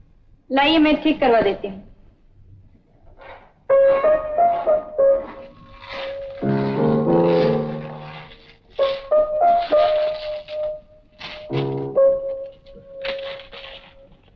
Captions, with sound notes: Give it to me, I'll do it. (Playing piano) - (Shoes squeaking)